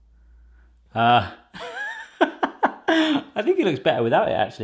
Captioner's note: laughing